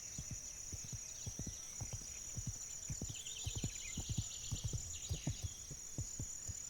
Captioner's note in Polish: dzwięk lasu, odgłos końskiego kłusa